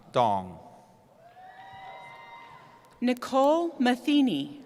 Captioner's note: cheering